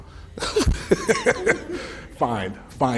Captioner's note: laughing